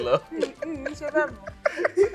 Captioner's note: laughs